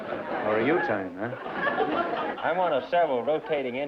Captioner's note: laughter